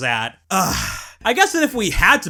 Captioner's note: sigh